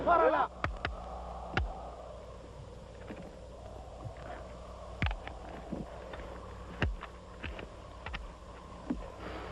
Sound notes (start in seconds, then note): 0.6 tapping; 2.0 wind whistling